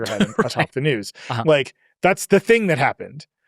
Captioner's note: laughs